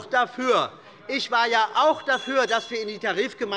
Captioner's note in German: Unruhe - Glockenzeichen des Präsidenten